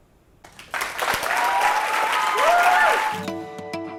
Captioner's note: applause